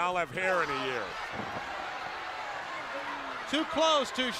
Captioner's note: crowd cheering